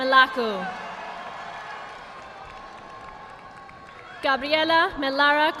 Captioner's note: audience applauding